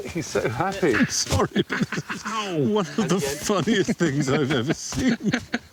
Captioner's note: chuckling